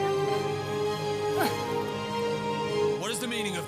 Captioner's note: grunting